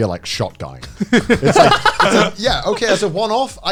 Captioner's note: men laugh